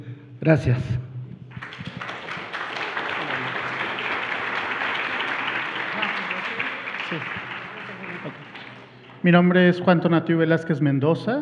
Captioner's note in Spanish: Aplausos